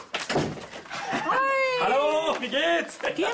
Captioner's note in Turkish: Kapı kapanma sesi; Almanca konuşma